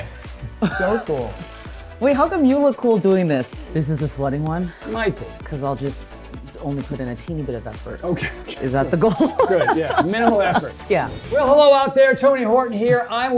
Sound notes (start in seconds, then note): 0.6 laughs; 8.1 laughs